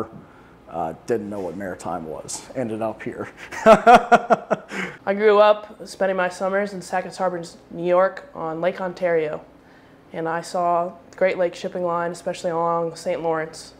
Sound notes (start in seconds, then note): 3.3 laughs